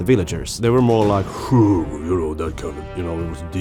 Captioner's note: voice deepens